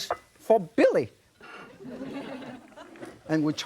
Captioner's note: audience laughing